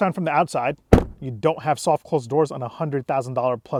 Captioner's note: thudding sound